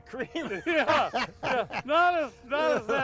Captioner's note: laugh